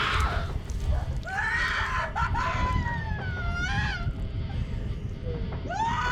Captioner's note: crying and screaming